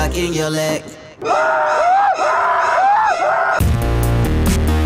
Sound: screams

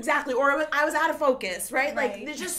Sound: laughs

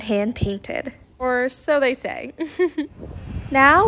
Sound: laughing

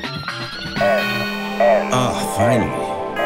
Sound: phone rings

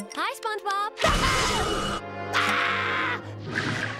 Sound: screaming

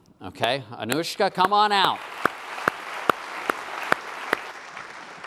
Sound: applause

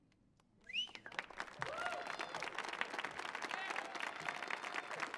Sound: audience cheers and applauds

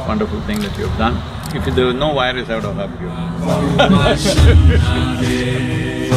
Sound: laughs

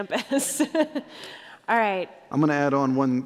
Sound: laughter

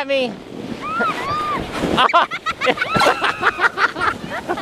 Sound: laughing

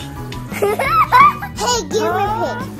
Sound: laugh

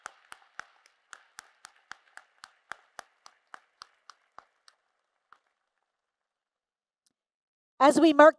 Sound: applause

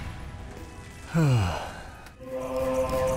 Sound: sigh

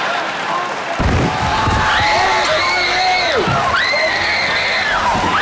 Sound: screaming

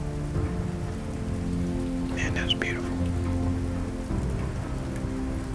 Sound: whispering

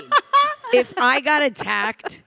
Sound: panelist laughing

